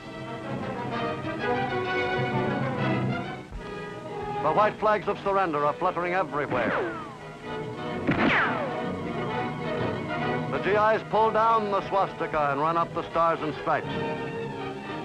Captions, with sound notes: (dramatic music builds) The white flags of surrender are fluttering everywhere. (bullets ricochet) The GIs pull down the swastika and run up the Stars and Stripes.